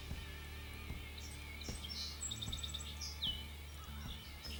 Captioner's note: birds chirping